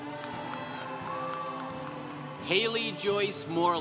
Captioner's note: congregation cheering